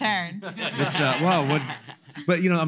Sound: laughter

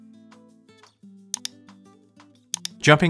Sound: mouse clicks

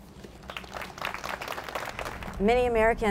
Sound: audience applauds

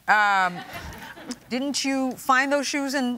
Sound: people laugh

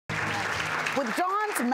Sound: applause

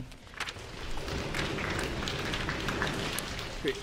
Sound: orchestra applauds

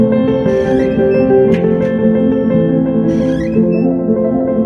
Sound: door slams

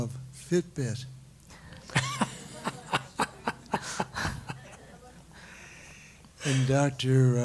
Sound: laugh

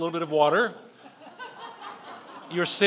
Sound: laughing

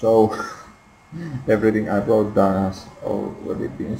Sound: laughter

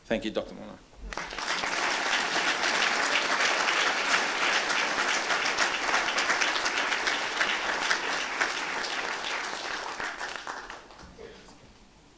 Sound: applause

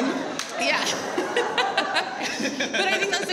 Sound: laughs

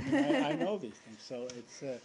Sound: laughter

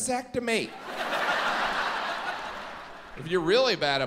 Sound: audience laughs

